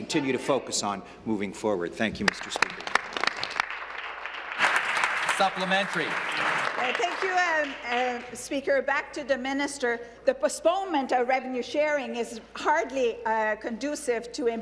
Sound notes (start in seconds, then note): 7.1 applause